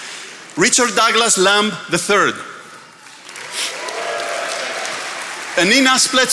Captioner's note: attendees applauding